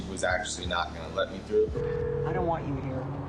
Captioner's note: line ringing